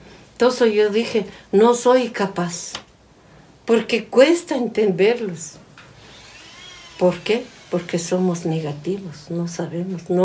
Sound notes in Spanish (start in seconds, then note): none